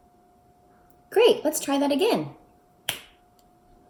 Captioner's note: snaps